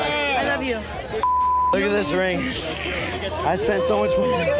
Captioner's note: beep